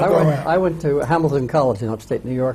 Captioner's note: laughter